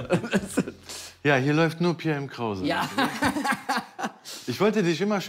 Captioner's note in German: lacht